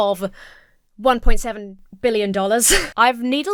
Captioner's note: chuckles